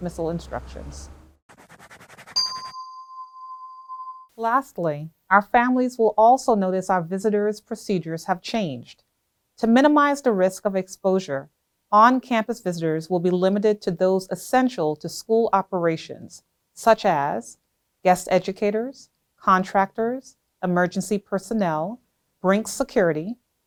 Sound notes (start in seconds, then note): 4.1 bell tone